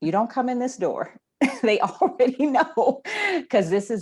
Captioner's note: laughs